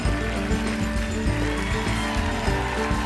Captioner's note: applause